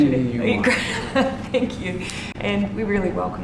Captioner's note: laughs